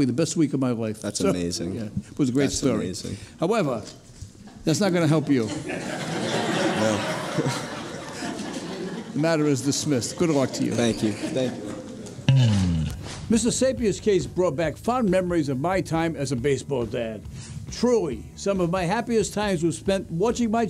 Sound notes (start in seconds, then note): 5.7 audience laughing